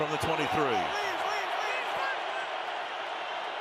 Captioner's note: crowd cheering